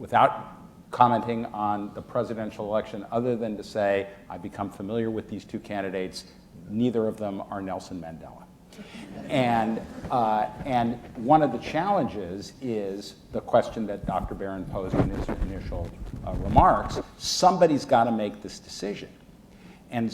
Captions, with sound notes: Without commenting on the presidential election, other than to say I've become familiar with these two candidates; neither of them are Nelson Mandela. (audience laughing) One of the challenges is the question that Dr. Barron posed in his initial remarks, somebody's gotta make this decision.